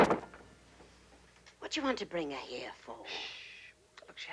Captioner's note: Ruby whispering